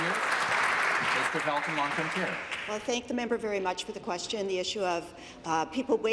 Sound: applause

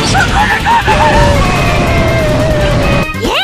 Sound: boom

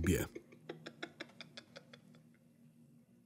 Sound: laughing

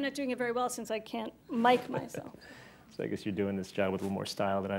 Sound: chuckles

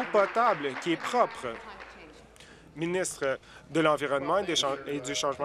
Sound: applause

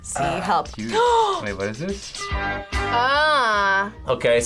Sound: gasps

